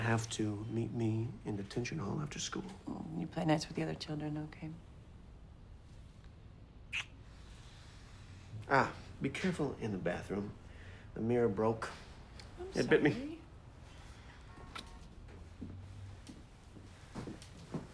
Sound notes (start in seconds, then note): 6.9 lips smacking